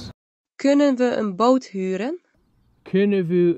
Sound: phone speaking in foreign language; speaking in foreign language

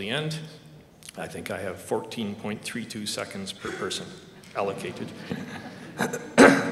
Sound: laughter

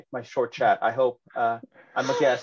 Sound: laughter

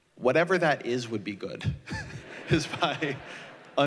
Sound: laughter

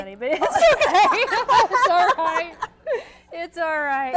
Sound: laughing

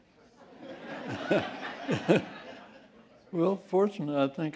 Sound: laughter

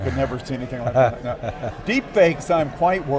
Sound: laughing

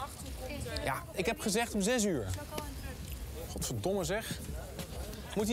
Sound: speaks in foreign language

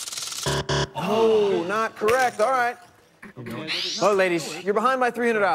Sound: buzzer

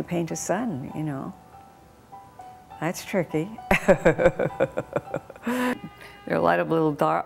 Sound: laughs

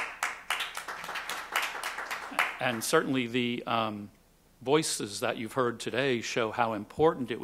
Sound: applause

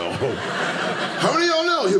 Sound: audience laughing

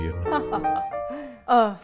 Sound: poised piano music; chuckle

